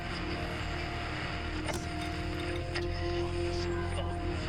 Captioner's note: static crackles